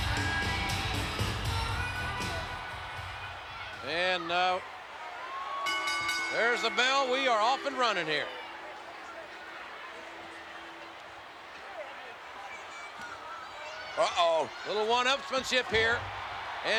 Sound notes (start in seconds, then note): 0.0 upbeat music; 5.5 bell ringing